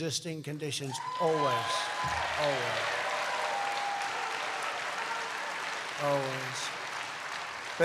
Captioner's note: applause